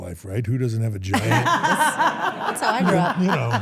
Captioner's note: everyone laughs